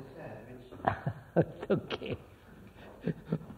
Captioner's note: laughs